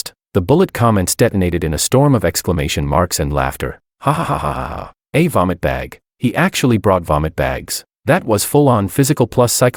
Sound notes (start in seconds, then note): 4.0 hahahahahaha